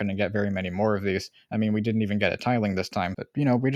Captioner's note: none